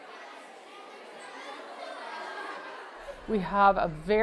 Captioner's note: students chatter